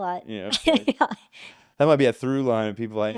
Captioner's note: laughing